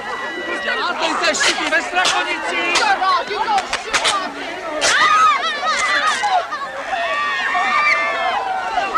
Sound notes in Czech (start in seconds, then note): 3.8 hluk rvačky